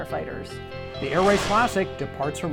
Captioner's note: whooshing